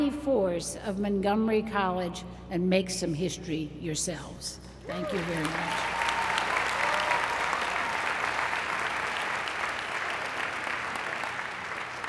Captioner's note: applause